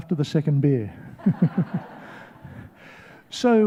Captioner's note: laughs